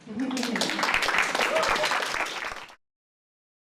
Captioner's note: applause